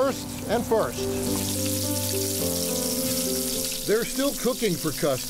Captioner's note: sad music; sizzling grill